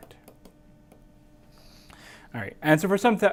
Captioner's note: tapping